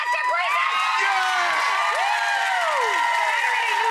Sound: winners cheering; audience cheering

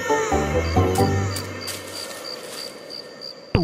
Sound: crickets

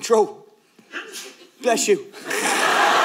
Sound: sneeze

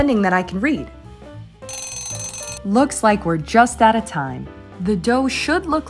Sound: timer Rings

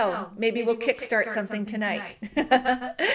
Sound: laughs

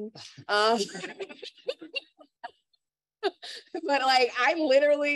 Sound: laughter

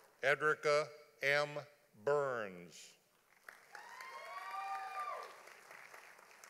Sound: audience applauding

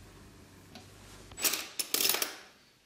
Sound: clattering

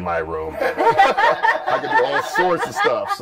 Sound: laughter

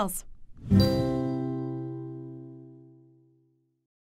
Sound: bell tone

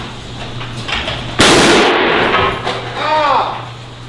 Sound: laughing; engine explodes

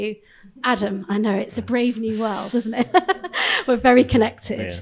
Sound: chuckles

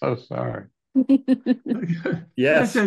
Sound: chuckles

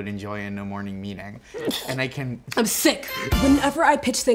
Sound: ziwe sneezes

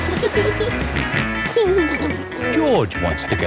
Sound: laughing; snorts and giggles

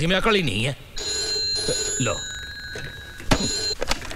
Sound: phone ringing

